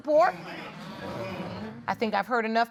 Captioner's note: audience agreeing